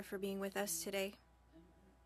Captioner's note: speaking French